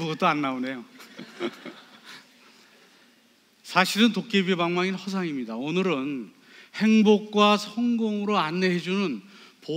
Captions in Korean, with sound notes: 아무것도 안 나오네요 (관객 : 웃음) 사실은 도깨비 방망이는 허상입니다 오늘은 행복과 성공으로 안내해주는